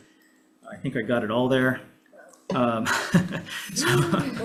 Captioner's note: laughs